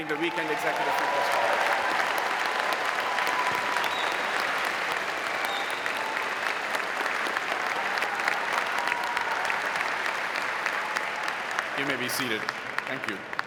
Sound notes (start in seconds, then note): 1.6 audience applauding; 1.6 audience cheering